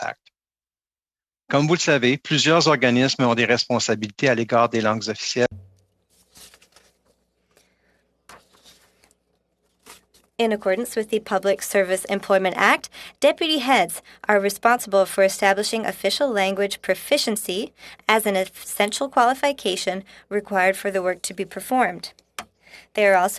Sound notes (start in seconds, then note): 6.6 speaking French